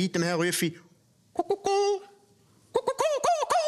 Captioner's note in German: Mit hoher Stimme